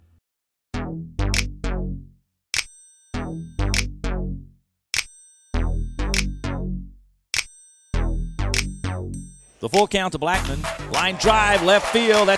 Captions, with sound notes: (upbeat music) - [Voiceover] The full count to Blackman, line drive, left field,